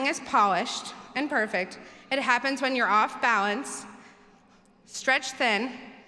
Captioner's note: none